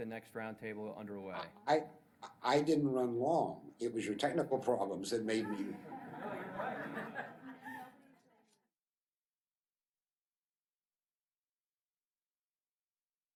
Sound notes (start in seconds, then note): 2.6 voiceover; 5.4 laughter